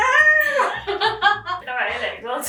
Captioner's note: both laughing